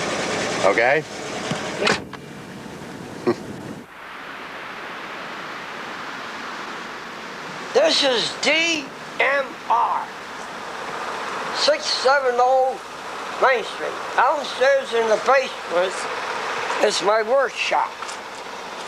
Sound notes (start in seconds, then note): 1.8 car door closes; 3.2 laughs